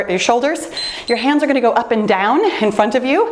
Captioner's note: timer beeps